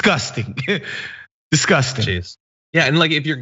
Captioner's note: laugh